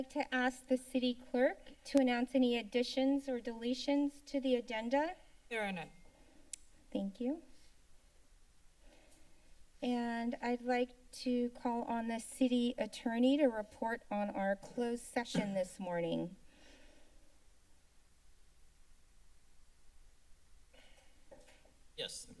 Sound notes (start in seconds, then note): 6.4 tongue clicks; 8.1 silence; 17.1 silence